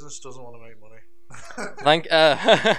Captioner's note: laughter